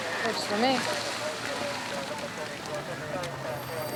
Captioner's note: police radio chatter, telephone ringing